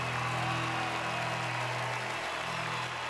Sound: cheering

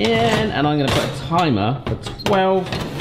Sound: pan clunking on oven rack

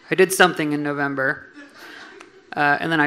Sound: audience laughing

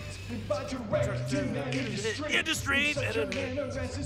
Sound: muttering

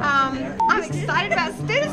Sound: beep

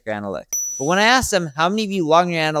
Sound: graphics ding

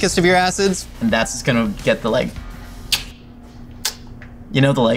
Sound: lips smacking

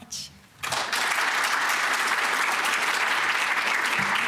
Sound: applause

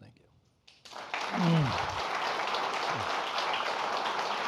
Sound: audience applauding

